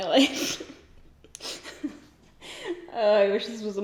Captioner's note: giggles